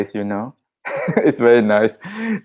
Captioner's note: laughing